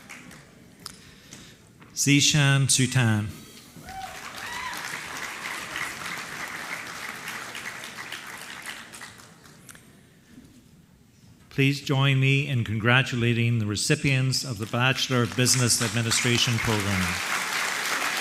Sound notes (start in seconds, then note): 0.0 applause; 3.8 applause